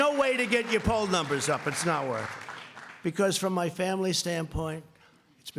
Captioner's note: applause